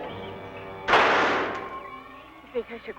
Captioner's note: gun firing